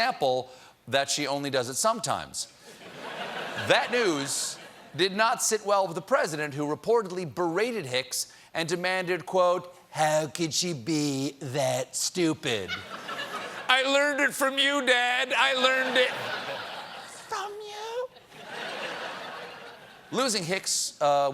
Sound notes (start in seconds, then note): 5.6 laughter